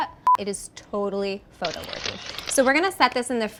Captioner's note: camera sounds